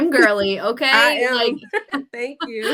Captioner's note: laughs